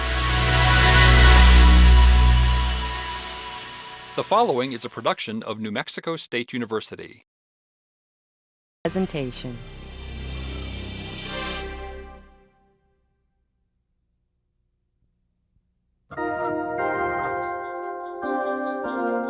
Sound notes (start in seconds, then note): 0.1 light music; 4.3 voiceover; 16.2 light music